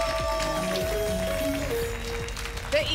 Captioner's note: applause and cheering; pinging sounds